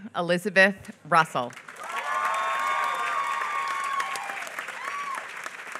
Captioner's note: applause